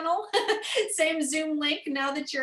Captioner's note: laughter